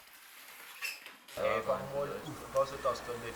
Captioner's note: quiet conversations